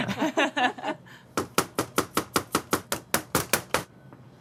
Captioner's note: cleaver banging